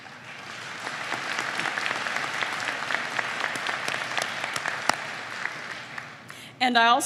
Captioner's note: applause